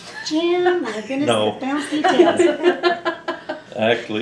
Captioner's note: laughter